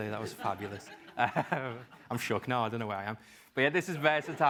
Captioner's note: laugh